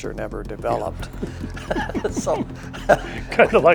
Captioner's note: laughs